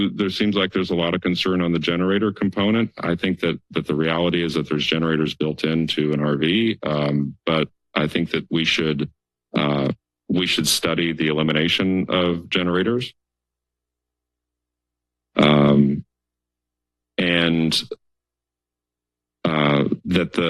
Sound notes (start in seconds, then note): 13.3 pause